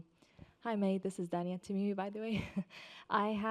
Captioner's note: chuckles